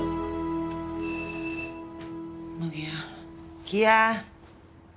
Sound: intercom

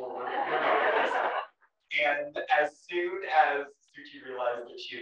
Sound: laugh

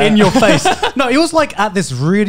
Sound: laughs

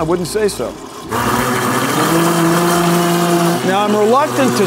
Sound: blender whirring

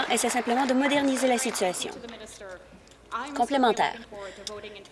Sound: applause

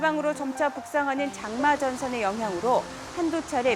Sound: heavy rain

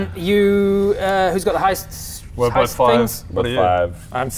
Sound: none

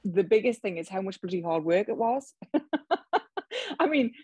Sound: laughs

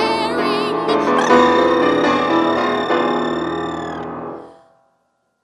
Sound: making loud trilling noise

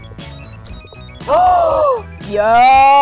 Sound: gasping

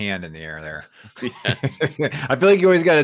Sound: both laughs

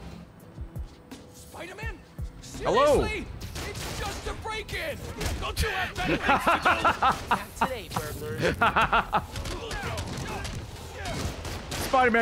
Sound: laughs

